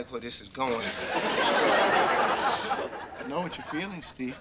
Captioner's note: audience laughter